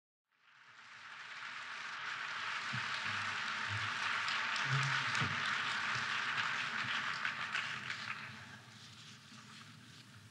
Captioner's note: applause